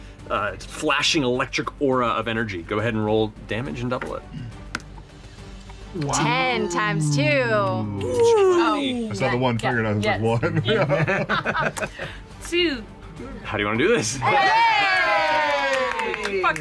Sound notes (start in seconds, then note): 10.3 laughter